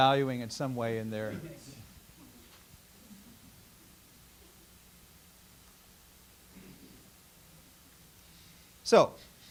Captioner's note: silence